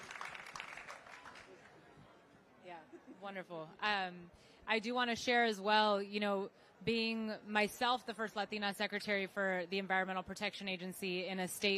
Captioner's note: applause